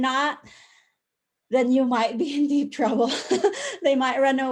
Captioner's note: laughter